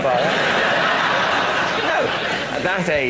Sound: laughter

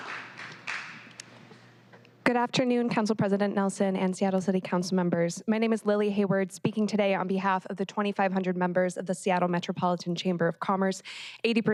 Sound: applause

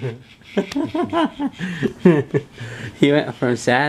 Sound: laughs

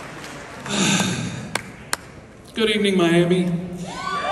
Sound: sigh

